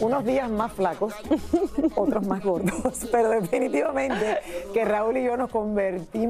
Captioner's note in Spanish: risas